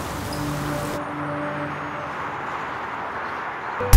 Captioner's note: Vehicles on road